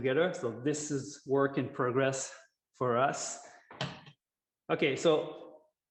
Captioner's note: object thuds